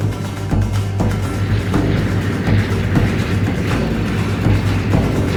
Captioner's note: airplane engine whizzing